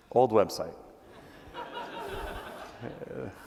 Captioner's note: laughing